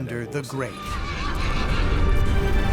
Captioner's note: horse whinnying